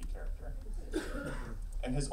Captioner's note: laughing